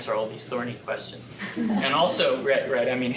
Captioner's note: chuckles